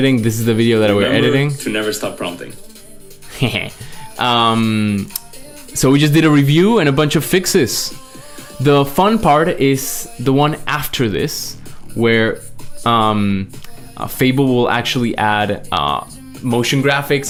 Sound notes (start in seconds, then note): 3.2 laughs